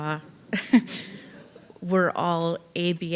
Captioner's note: audience laughing